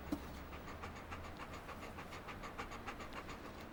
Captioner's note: dog panting